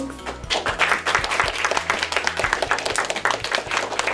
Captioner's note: clapping